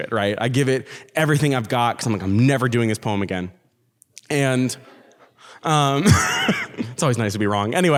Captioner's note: laughs